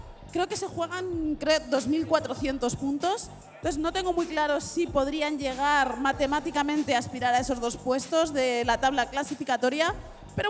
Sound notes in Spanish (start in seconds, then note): none